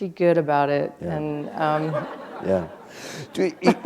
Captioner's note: laughter